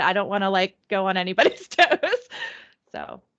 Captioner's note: laughing